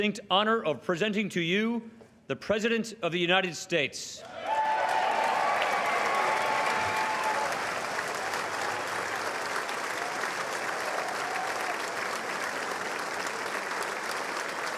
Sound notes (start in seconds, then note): 5.1 cheers; 6.7 applause